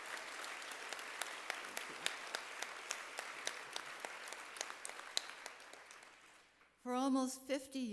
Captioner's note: applause